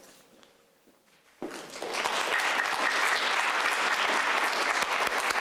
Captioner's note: audience clapping